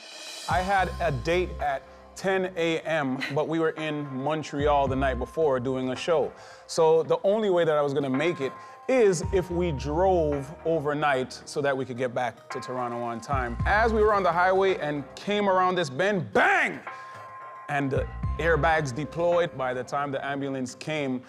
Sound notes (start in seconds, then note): none